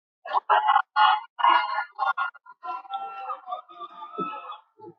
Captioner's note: cheering